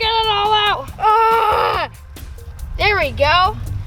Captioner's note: grunting